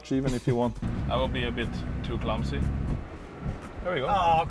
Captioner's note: engine stalls